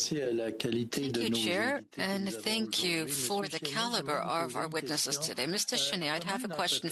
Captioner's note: speaking in French